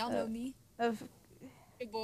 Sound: sighs

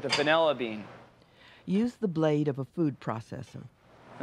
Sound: voiceover

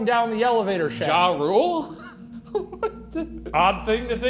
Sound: laughing

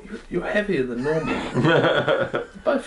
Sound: laughter

